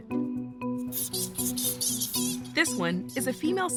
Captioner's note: bat squeaking